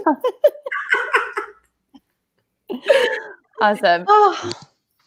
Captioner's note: laughing